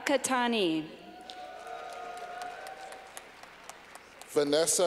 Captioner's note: clapping